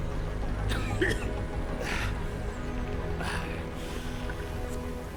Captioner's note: man coughing